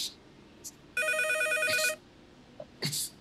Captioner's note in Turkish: Telefon çalıyor